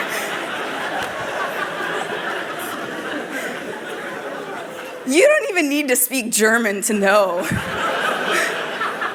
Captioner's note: laughter